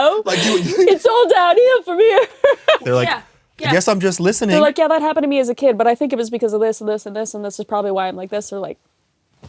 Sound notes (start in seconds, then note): 2.0 laughs